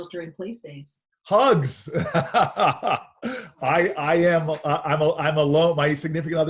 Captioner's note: laughing